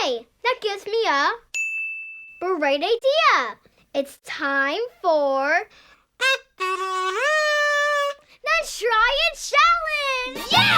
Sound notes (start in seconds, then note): 1.5 dinging; 6.1 kazoo trumpeting